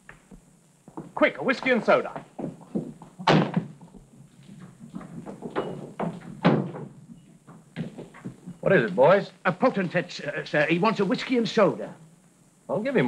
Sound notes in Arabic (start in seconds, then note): 3.2 يُغلق الباب بقوة